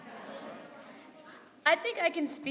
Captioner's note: crowd